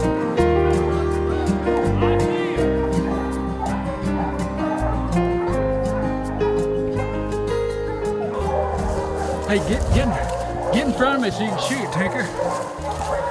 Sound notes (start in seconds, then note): 4.2 dogs barking